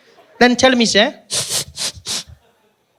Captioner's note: sniffing